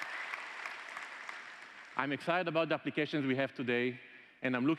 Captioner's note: applause